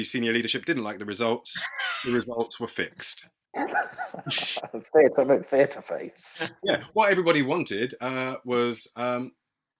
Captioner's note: laughter